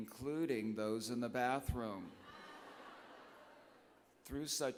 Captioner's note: laughter